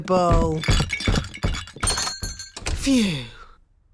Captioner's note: thumping